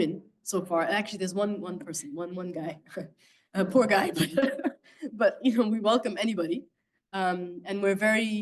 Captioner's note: laughing